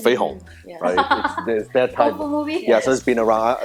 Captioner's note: laughing